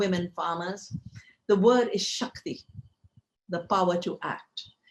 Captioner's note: speaking in foreign language